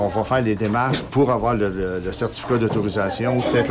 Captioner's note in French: none